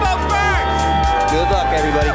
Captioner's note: crowd cheering